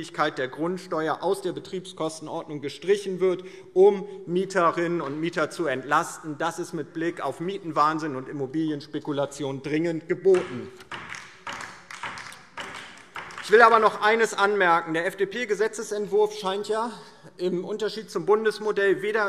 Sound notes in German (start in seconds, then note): 10.8 Beifall DIE LINKE